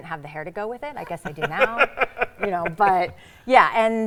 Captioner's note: laughing